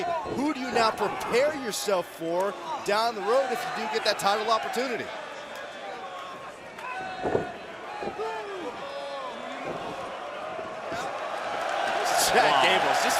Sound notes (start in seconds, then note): 5.9 crowd chatter; 9.5 crowd cheering